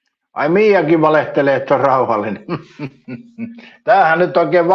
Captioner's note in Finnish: naurua